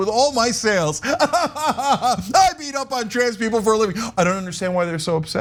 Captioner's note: laugh